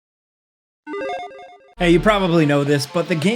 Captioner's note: logo dinging